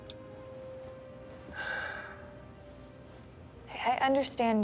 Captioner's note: sighs